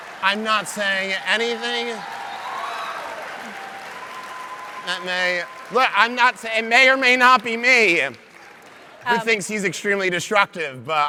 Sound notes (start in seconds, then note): 1.9 audience applauds